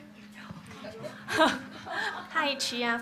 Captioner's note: laughter